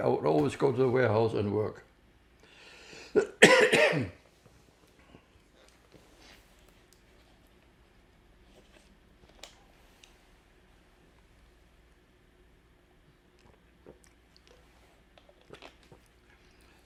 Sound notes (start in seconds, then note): 3.0 coughing; 4.2 pauses 6 seconds; 10.9 drinking